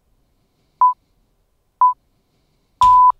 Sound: beeping

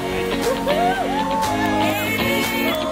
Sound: person cheering

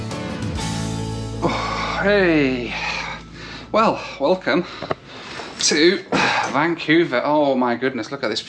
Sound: sighs

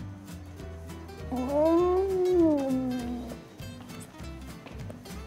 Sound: grumbles

